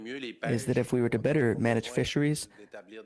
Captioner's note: speaking French